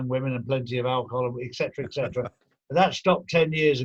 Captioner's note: laughing